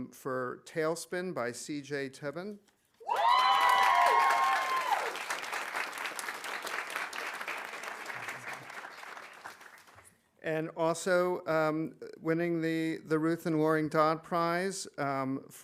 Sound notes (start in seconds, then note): 3.0 audience cheering; 3.1 audience applauding